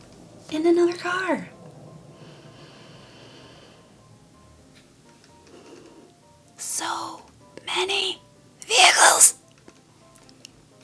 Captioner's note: WHISPERS: So. Many. Vehicles!; pss pss pss pss pss